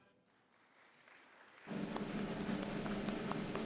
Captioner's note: audience applauds